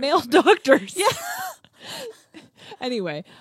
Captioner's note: laughs